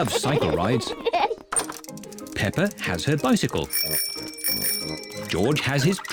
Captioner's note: both giggle; rings bell